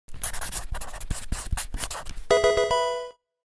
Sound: marker scratching; electronic video game chime

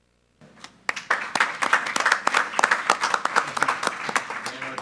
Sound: applause

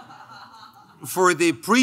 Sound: laughing

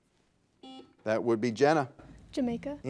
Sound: buzzer dings

